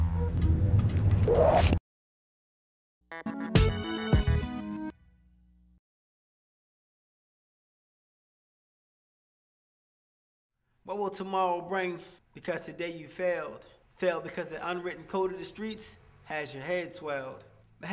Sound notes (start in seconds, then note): 0.8 air whooshing; 3.1 upbeat music